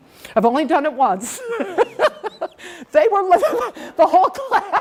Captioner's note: laughing